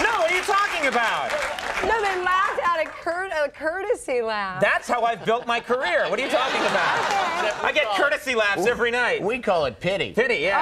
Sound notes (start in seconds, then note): 4.9 audience laughs